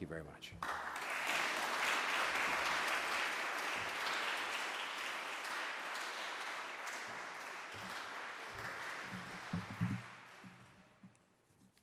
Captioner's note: applause